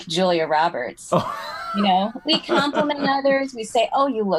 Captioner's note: laugh